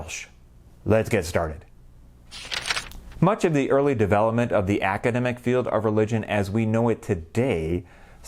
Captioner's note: page turning